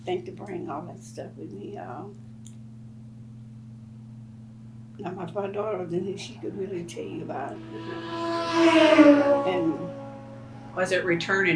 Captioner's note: loud traffic